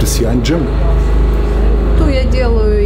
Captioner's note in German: Lautes Rattern